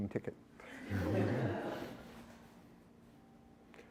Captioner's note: laughter